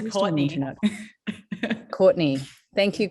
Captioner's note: chuckles